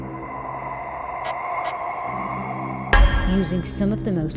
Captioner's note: ghostly breathing